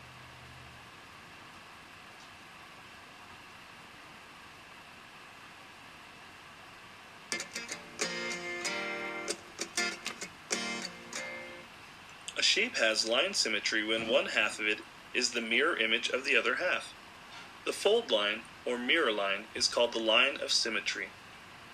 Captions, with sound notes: (guitar music) - [Voiceover] A shape has a line of symmetry when one half of it is the mirror image of the other half. The fold line or mirror line is called the line of symmetry.